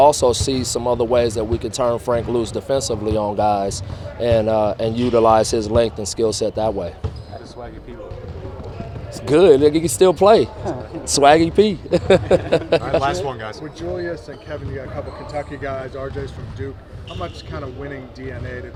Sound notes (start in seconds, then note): 11.8 laughs